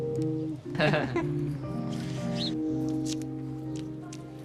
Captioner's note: chuckles